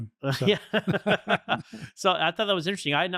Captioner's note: laughter